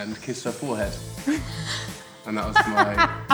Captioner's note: Jessie laughs